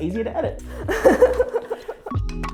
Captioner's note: laughing